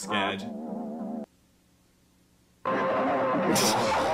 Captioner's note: electronic tones